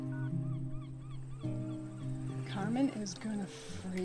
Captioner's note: gulls squawking